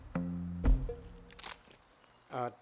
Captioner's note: branch snaps